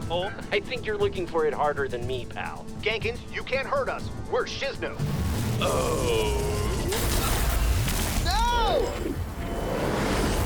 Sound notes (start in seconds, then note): 5.2 weapon charging